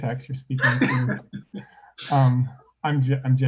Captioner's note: laughs